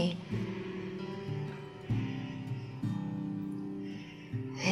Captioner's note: inhaling